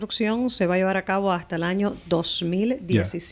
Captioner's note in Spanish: Hablando ingl\s